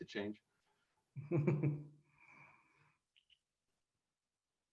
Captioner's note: laughing